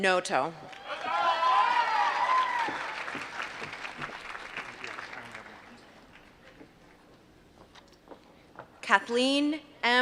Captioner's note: applause